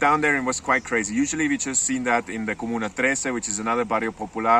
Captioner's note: speaks foreign language